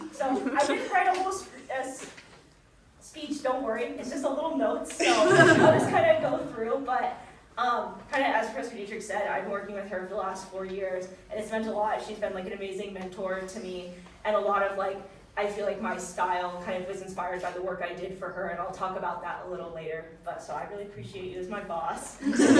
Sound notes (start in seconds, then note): 5.0 audience chuckling; 22.2 audience chuckling